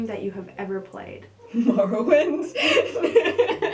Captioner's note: laughing; laughter